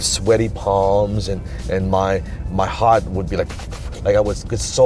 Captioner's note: beating